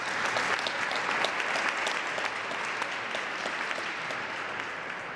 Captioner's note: applause